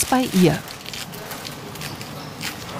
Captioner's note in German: Rascheln